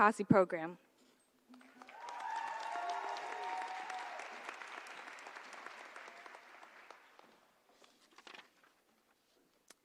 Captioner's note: applause